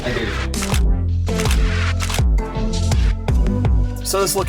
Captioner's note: shutter clicks